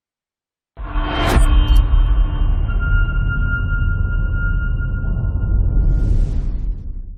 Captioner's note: dramatic sound